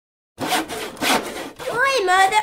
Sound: sawing

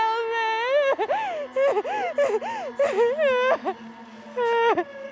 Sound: Brigit sobbing

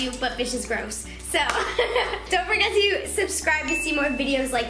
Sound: laughing

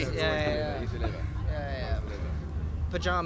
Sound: chuckling, mumbling

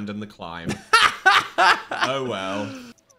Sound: laughs

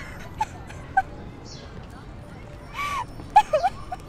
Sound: girl cries

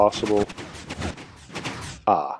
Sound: pistons slow and stop

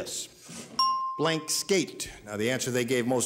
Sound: bell dings

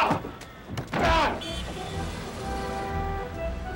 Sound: crashing noise; Dean grunts; playful instrumental music

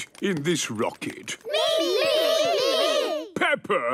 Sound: calling out in turn

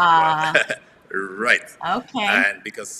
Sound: laughs

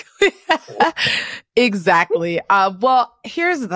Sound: laughs

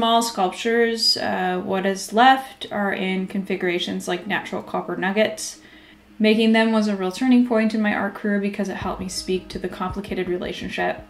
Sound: Tahltan dialogue

